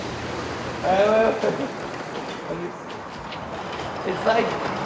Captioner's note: laughs